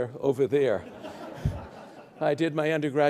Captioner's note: audience laughs